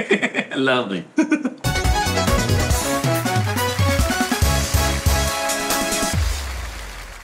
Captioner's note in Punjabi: ਤਾੜੀਆਂ